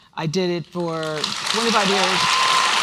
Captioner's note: applause